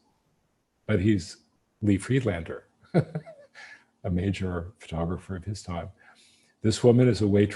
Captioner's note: laughs